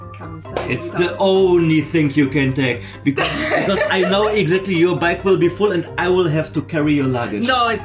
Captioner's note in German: gelächter